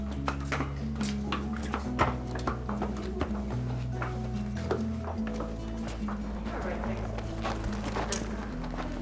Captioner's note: hooves clattering